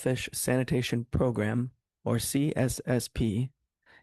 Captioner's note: speaking French